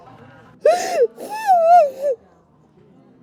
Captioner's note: sobbing